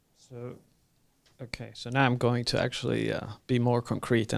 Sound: voiceover

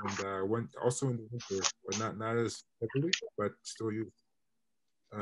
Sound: internet distortion

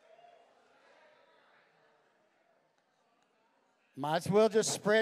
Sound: congregation exclaiming

